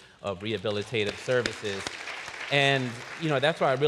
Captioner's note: applause